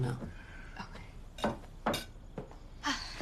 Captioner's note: Lisa sighing contentedly